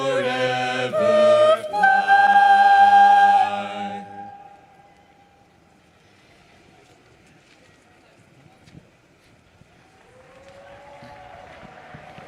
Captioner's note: cheers and applause